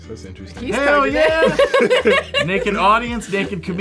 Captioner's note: laugh